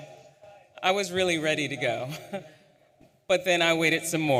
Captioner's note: chuckles